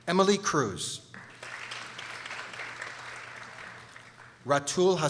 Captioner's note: people applauding